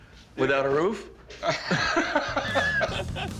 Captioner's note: laughter